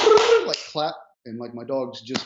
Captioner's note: claps and makes high pitched brrrr noise